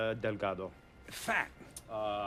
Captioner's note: speaking foreign language